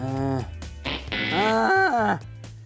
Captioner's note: wrong answer noise